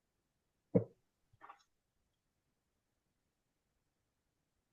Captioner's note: water bottle thudding